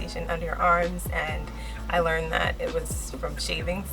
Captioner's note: none